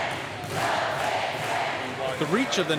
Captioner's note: crowd chanting